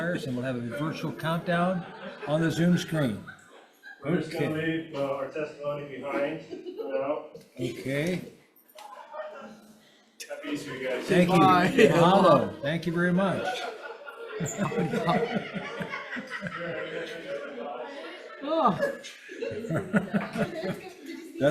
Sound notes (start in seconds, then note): 3.3 spectators giggling; 8.9 giggling continues; 14.0 spectators laughing; 18.8 members laughing